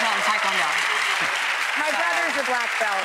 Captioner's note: audience applause